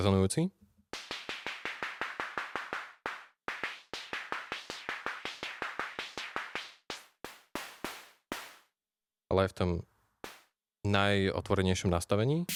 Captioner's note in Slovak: Applause